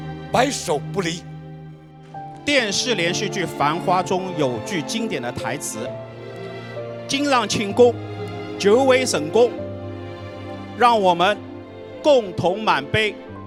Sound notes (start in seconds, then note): 6.9 Shanghainese